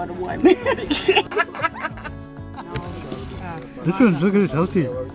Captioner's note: both laughing